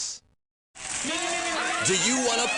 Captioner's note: people cheering